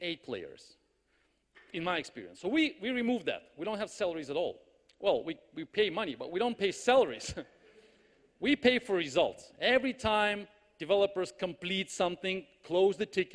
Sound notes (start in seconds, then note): 7.1 laughs